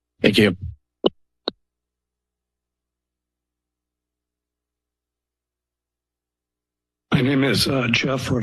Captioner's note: silence